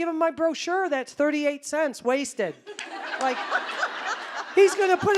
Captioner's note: audience laughing